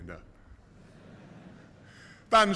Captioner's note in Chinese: 笑声